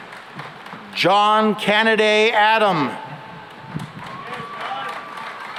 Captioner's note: applause